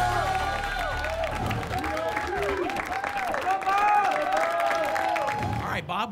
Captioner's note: applause and cheering